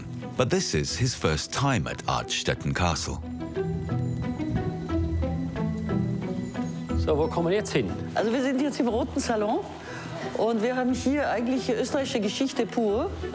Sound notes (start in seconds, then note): 4.0 gentle music; 7.0 speaking foreign language